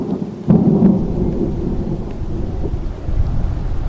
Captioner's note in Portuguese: som de trovão